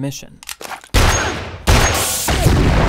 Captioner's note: gun firing; gas tanks exploding